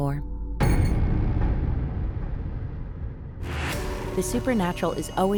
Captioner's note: shocking ominous sound effect